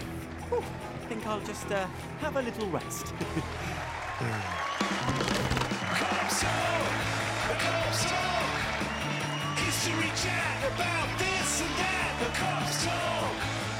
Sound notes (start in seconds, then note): 3.1 cheering